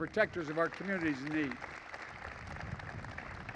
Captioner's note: applause